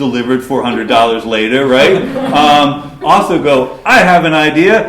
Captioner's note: laughter